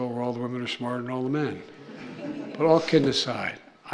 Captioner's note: laughter